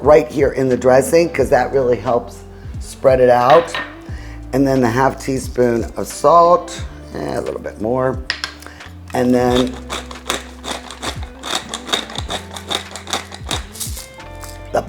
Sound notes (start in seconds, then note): 10.0 grinding pepper; 13.7 upbeat music